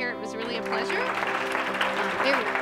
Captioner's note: clapping